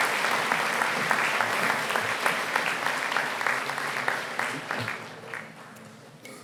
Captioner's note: applause